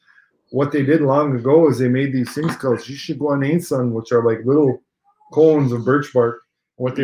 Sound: speaking Ojibwe

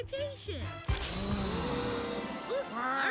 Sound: gasps

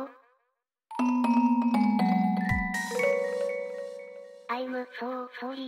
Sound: fail sfx

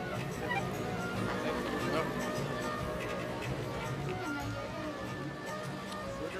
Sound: speaking foreign language

